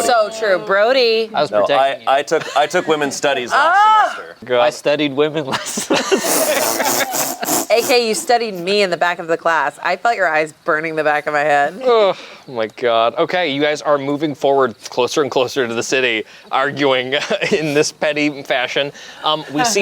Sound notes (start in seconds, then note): 5.5 everyone laughs; 12.2 groans